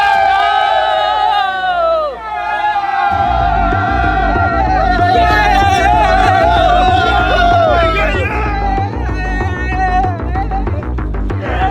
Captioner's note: screaming